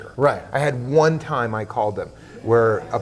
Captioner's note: laughs